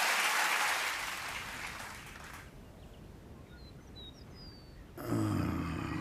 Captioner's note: birds chirping; groans